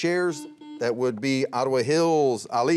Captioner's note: buzzer rings